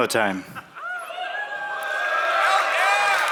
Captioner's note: cheering; applause